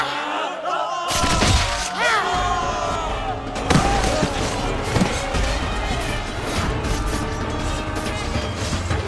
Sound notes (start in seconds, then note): 0.7 thudding; 3.6 thudding